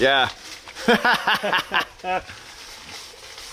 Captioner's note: laughing